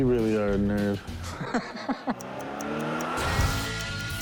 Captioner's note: laughs